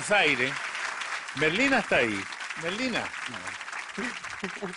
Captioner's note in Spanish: Aplausos